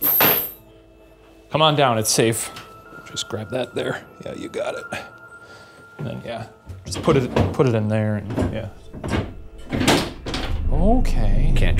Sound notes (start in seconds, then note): 0.1 metal rattles; 9.8 spindle clanks and thuds